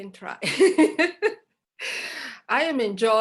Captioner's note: laughter